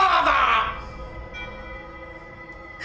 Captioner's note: crying